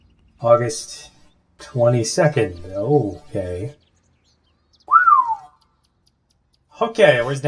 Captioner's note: descending whistle